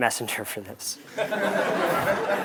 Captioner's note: laugh